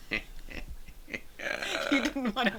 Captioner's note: both laughing